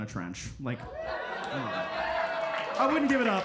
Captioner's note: audience cheering